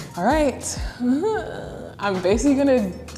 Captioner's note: groans